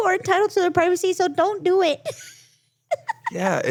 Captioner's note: laughs